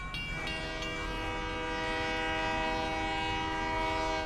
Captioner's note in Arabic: بوق القطار; قرع البوق